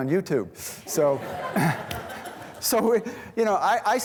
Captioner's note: students laughing